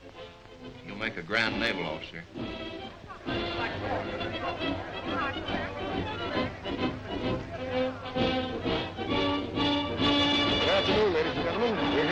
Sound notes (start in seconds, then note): 4.4 bright patriotic music; 4.4 crowd chattering